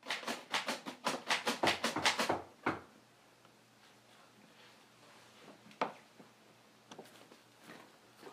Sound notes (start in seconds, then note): 1.5 door Knocking